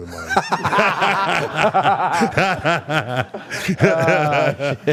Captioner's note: laughing